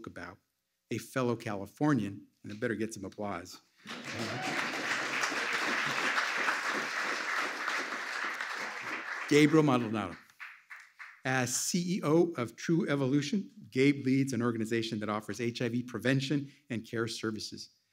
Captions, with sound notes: about a fellow Californian, a better get some applause. (Applause.) Gabriel Maldonado, as CEO of True Evolution, Gabe leads an organization that offers HIV prevention and care services.